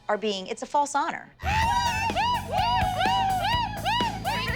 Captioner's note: cheering